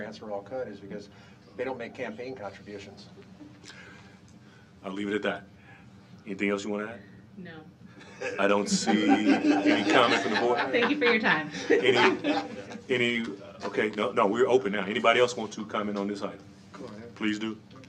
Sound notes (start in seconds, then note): 9.5 laughter